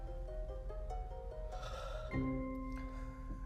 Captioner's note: sighs